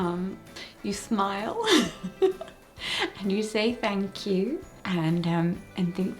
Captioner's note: laughs